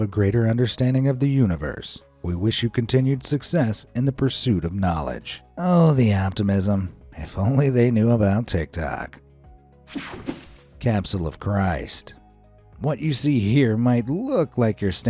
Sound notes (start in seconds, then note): 9.9 air whooshing; 10.0 soft upbeat music